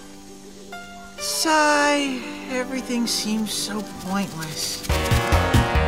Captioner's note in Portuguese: Suspiro